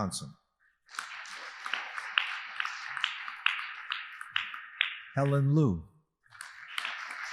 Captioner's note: audience applauding